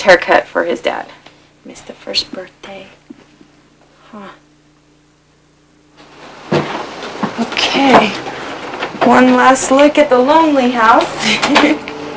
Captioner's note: laughter